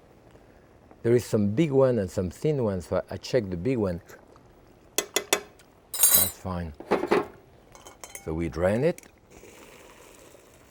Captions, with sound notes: There is some big one and some thin ones, so I check the big one. (metal taps) That's fine. So we drain it.